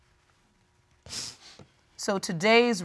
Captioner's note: sniffles